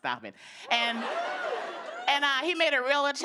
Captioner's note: scattered cheers